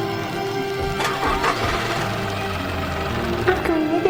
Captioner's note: engine puttering